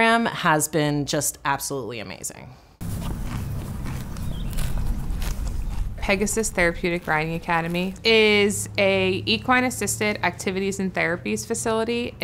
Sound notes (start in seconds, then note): 2.8 horse crunching; 2.9 birds chirping